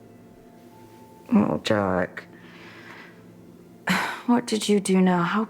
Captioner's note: sighs